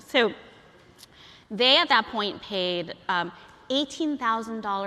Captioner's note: none